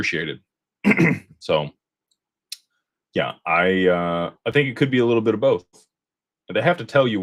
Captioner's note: clears throat